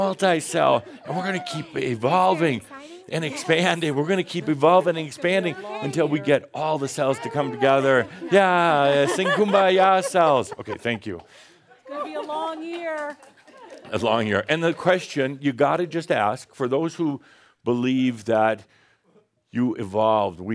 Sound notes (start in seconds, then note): 7.3 they’re all laughing